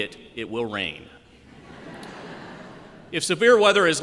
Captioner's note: laughter